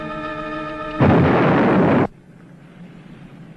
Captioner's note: bomb exploding